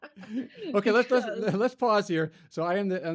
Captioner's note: both laugh